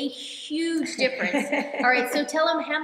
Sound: laughing

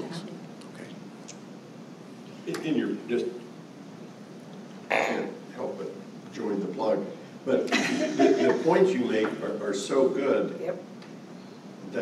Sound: laughter

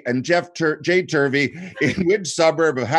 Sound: chuckling

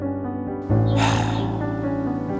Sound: sigh

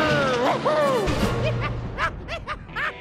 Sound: laughing

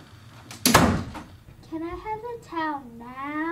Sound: door slams

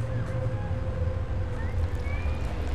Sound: none

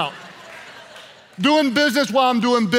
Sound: laughing

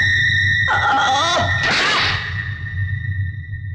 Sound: groans

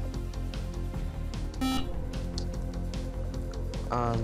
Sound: beep

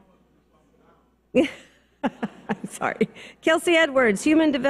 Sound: laughs

